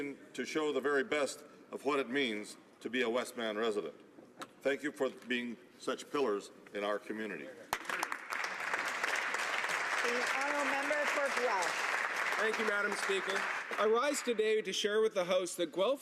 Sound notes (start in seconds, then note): 11.3 some Applause